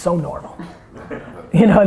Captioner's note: laughter